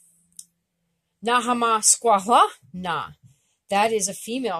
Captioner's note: speaking Abenaki